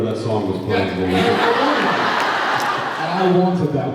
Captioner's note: laughs